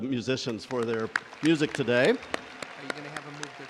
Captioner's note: crowd applauding